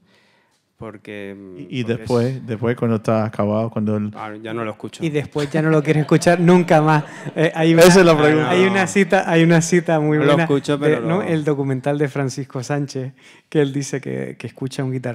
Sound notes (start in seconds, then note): 2.2 audience member speaking in Spanish; 4.7 speaking in Spanish; 11.4 continues in Spanish